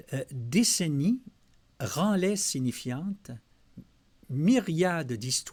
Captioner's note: translating in French